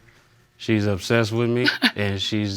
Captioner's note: laughs